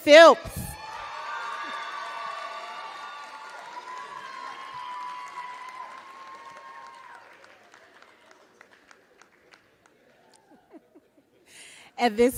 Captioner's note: applause